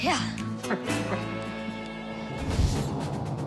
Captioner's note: laughter